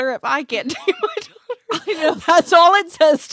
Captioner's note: laughs